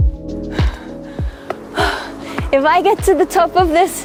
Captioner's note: gentle upbeat music; puffing